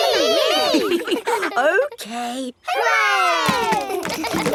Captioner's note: chuckles